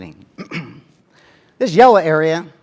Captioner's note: cough